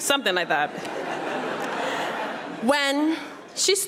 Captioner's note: audience laughing